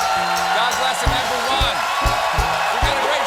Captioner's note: cheers and applause